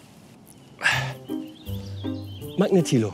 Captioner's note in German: Schreitende Klänge